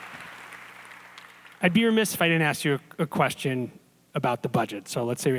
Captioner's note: applause